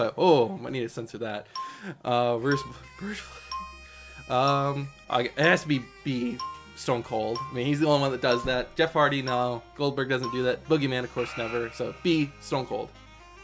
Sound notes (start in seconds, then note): 2.4 countdown timer ticks down; 11.2 countdown timer buzzes